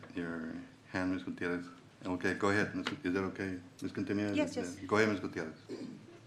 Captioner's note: clears throat